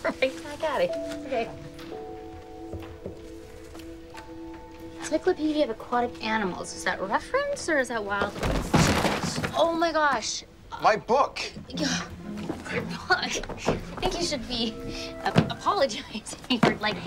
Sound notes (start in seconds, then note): 3.7 somber music; 8.4 thud